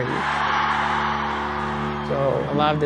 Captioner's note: crowd cheering